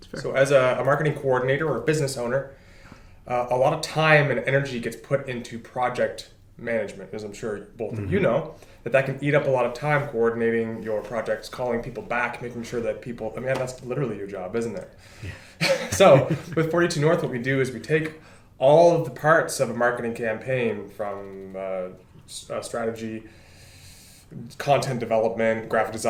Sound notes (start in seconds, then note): 15.6 laughter